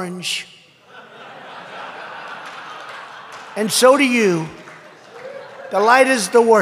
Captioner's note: laughter and applause